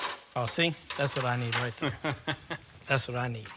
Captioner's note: laughs